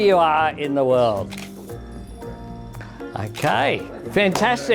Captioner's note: camera shutter clicks